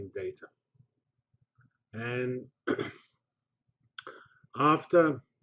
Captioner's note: pause